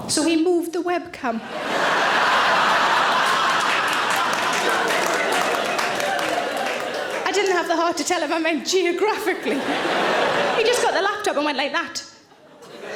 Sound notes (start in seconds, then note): 1.4 audience laughing; 9.2 audience laughing